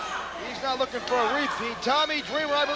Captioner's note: crowd cheering